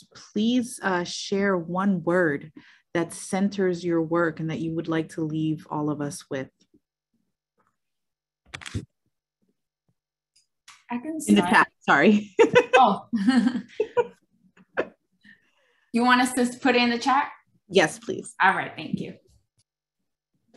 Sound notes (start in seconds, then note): 13.1 laugh